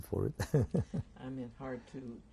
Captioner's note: laughs